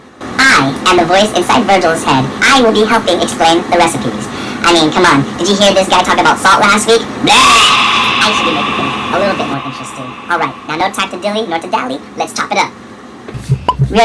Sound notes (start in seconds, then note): 7.2 screams